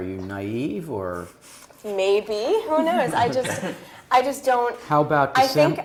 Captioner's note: laugh